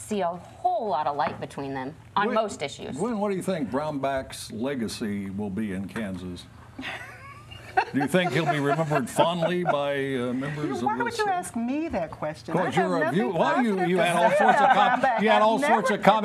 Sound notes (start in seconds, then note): 6.8 laughter